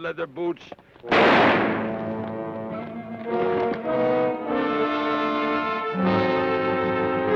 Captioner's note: gun fires; ominous orchestral music